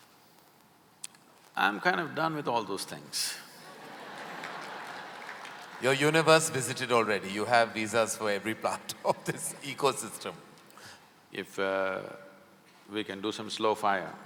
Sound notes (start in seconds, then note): 3.6 laughter/Applause; 8.0 laughs